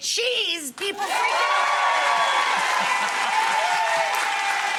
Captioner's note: audience cheering